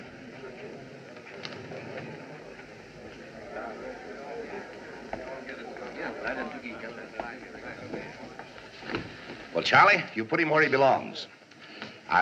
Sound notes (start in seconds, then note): 5.6 spectators Chattering